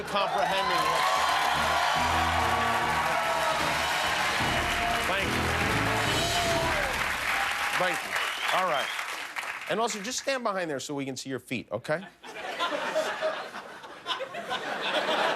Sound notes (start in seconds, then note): 1.5 cheers and applause; 12.1 laughter